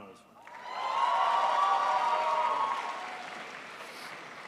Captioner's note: crowd applauds